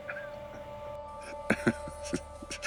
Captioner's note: laugher